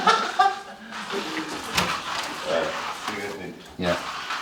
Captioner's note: Marwan laughs